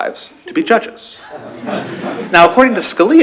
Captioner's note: laughter